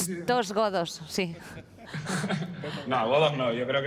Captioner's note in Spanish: Risas